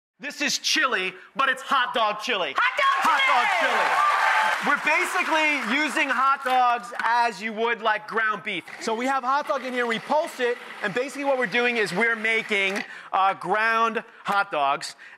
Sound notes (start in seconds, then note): 2.5 cheering continues; 2.6 audience cheers